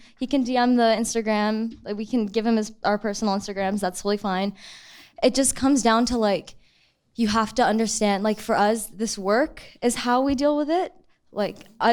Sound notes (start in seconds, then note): none